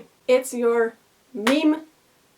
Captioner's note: clap